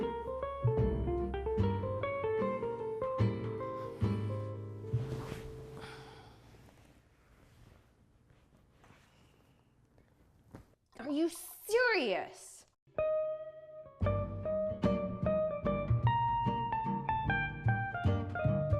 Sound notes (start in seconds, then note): 4.8 rustling; 5.7 sighing